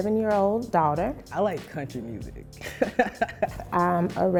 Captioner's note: laughter